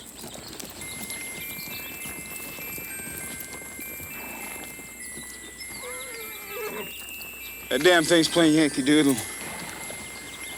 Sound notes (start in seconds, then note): 0.8 pocket watch chimes melodically; 5.6 horse neighs